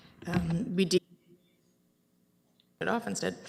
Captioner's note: audio drop